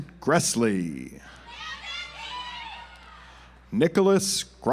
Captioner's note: audience applauds